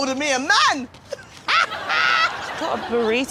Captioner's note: laughs